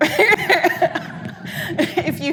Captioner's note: audience laughing